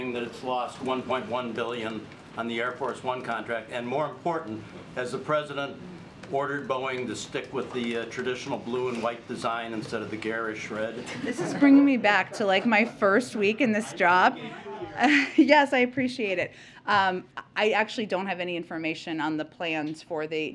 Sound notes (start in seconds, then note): 11.0 laughter